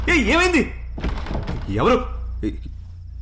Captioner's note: door rattles